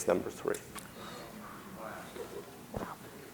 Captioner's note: audience murmuring